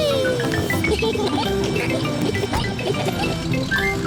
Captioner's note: giggling